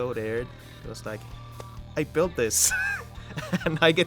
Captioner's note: laughs